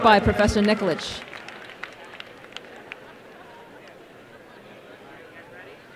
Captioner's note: applause and crowd murmurs